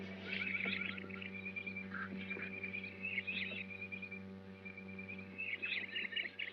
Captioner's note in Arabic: محيط الغابة - زقزقة الطيور